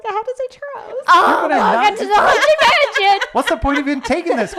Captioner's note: groans